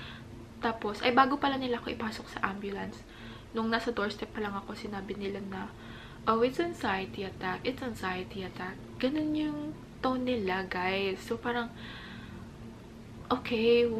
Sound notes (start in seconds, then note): 6.0 calmly